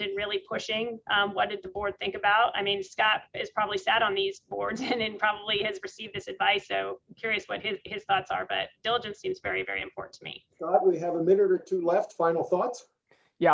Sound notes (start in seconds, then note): 4.7 chuckles